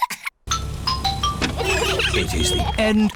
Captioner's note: trumpets; horns honking